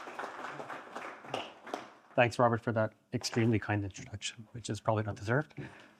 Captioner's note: applause